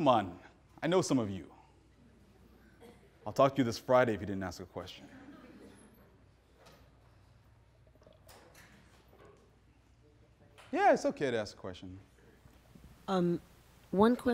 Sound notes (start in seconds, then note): 5.0 audience laughing